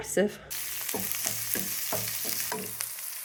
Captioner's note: sizzling